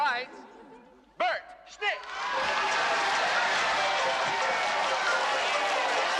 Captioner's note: Бормочет; Аплодисменты